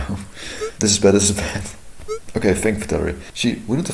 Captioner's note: chuckling